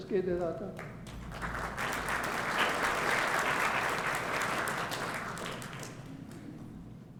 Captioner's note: applause